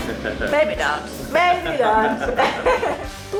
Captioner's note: chuckles